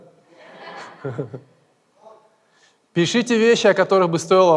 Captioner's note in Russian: смех в зале